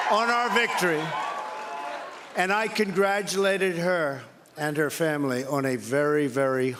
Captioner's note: cheering